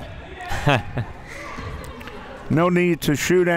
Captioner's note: laughing